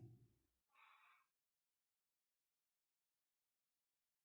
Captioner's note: silence